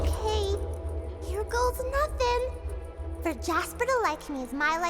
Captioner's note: chanting